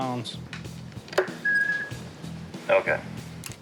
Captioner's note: feedback screeches